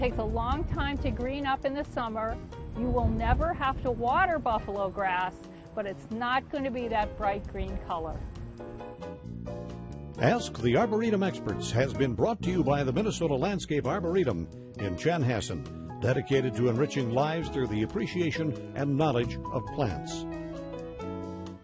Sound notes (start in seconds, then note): 10.6 voiceover